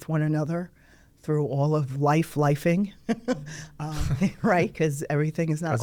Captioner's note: laughs